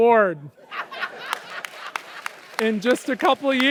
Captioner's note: audience laughs